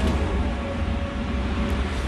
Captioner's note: whine of tires on road